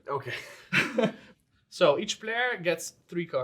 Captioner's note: all laughs